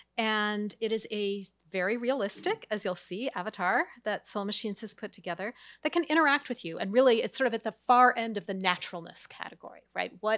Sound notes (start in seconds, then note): none